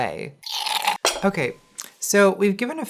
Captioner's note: drink slurping